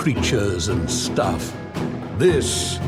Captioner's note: none